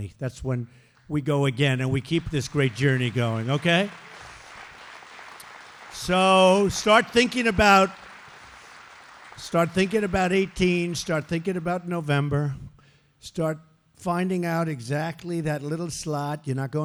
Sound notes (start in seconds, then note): 3.9 applause